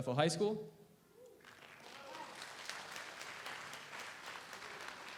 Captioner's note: audience applauds